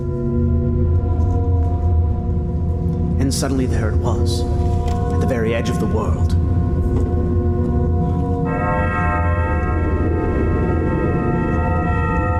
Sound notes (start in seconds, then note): 8.3 bells chime